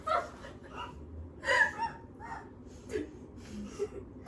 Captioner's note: still laughing